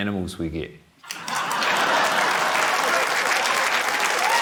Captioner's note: laughter, applause